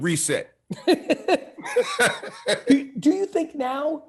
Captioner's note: both laughing